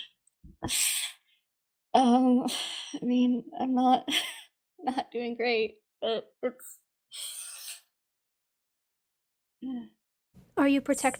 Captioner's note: inhales